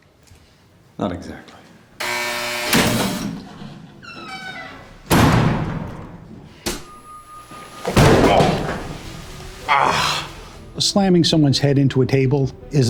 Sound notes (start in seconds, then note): 2.0 loud buzzer; 4.0 door slams; 7.5 head hits table